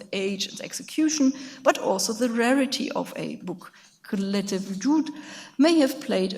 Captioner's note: speaks in a foreign language